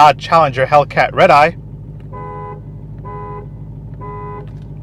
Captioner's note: honks horn